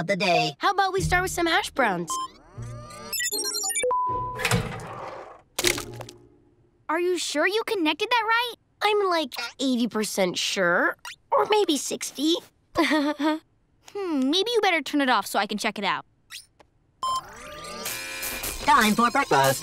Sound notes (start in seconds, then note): 2.1 beeping; 12.8 chuckles; 17.0 beeping